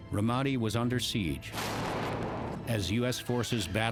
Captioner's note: explosion